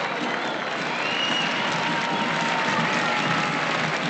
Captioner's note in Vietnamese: Tiếng reo hò tiếp tục